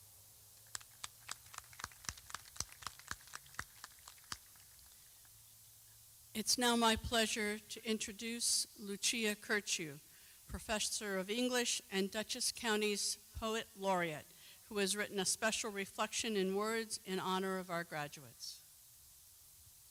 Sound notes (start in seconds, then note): 4.9 clapping